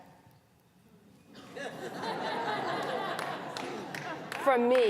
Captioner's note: laughter